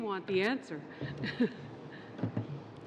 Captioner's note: laughter